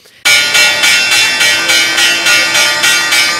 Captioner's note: dinging bell